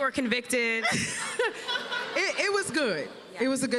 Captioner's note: laughter